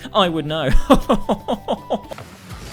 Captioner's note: arrogant laugh